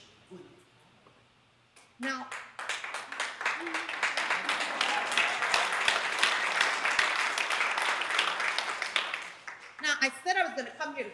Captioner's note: applause